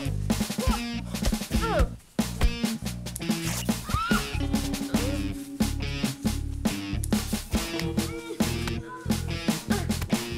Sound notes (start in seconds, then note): 3.4 clothing rips; 3.8 girly scream